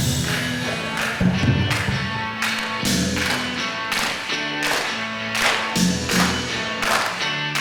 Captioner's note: audience clapping rhythmically